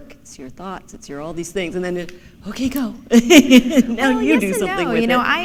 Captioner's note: laughter